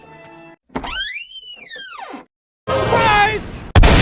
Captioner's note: door Opens Slowly; gunshot